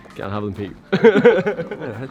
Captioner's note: laughs